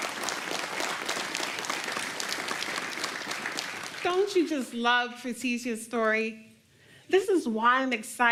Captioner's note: applause